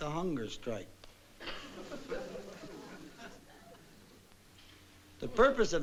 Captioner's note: audience laughing